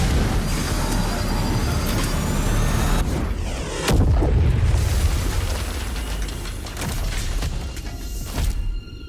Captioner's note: rocket roaring